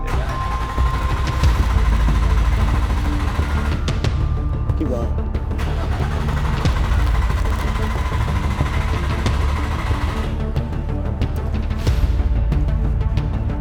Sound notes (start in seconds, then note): 0.0 car engine turning over; 5.4 car engine turning over; 6.0 dramatic music